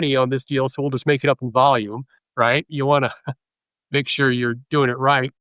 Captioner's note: laughs